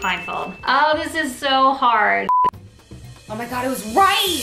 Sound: beep

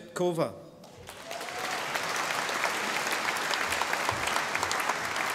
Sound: audience applauding

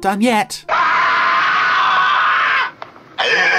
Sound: screaming

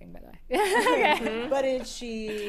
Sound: laughter

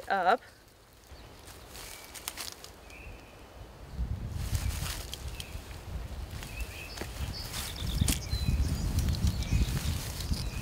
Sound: leaves rustling

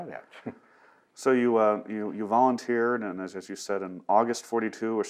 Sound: laughs

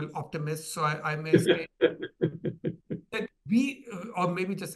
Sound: panelists laughing

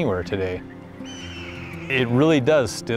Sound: hawk screeching sound

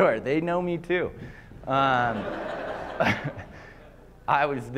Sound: laughter

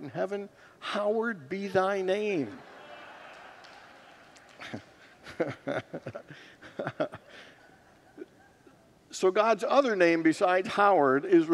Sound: congregants laugh

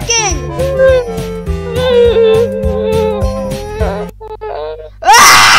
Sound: whimpers

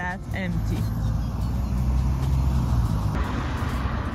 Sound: cars passing

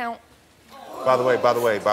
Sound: audience oohing

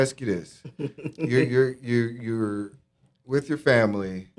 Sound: laughing

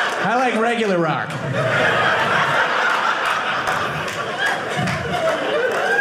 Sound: audience laughing

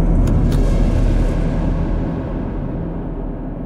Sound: clicking

